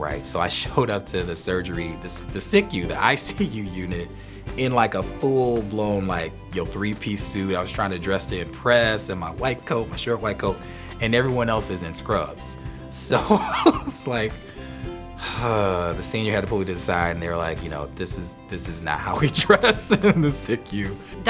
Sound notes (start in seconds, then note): 13.2 laughs; 15.2 sighs